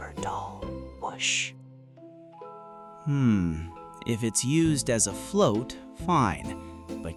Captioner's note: whispering